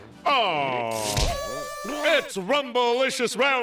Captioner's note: smack